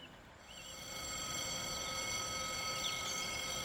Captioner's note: sound of level crossing bells